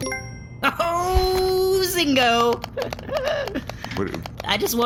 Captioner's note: notification ping